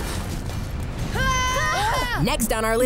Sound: screaming

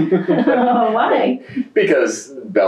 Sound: laughter

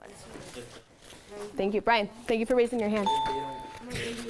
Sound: ding

